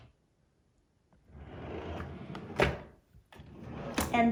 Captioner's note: drawer closes